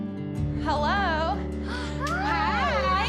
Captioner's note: gasps